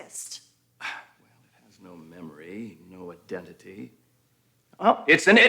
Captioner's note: sighs